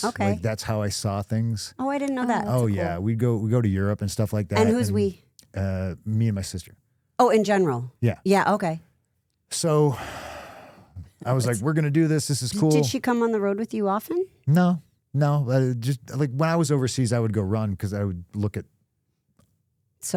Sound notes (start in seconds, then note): 9.7 sighs